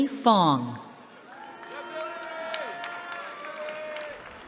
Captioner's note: cheering